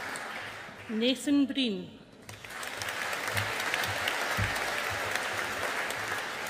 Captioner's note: audience applauding